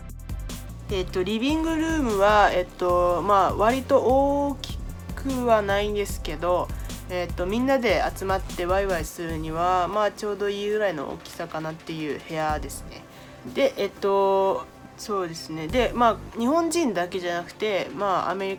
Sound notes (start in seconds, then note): 1.5 speaking in foreign language